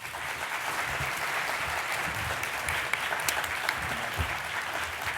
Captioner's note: applause